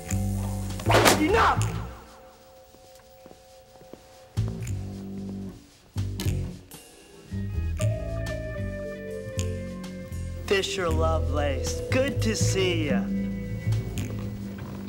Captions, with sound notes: (banging) - Enough! (soft instrumental music) Fisher Lovelace, good to see you.